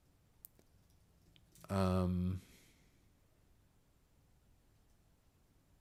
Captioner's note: silence